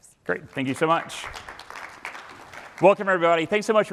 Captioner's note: applause